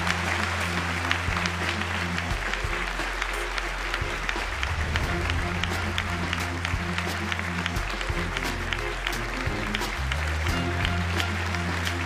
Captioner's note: applause